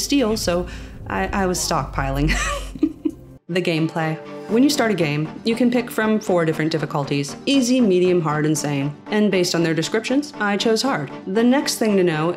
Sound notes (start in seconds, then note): 2.2 chuckles